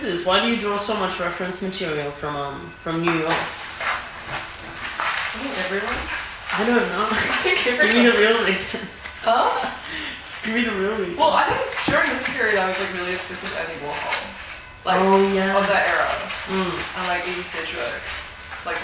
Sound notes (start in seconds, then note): 3.1 paper rustling; 7.2 laughs; 7.4 laughing